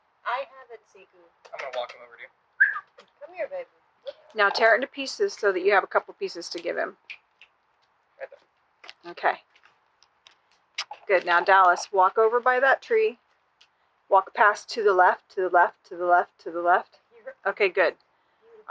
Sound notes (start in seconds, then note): 1.4 kissy noises; 2.6 whistle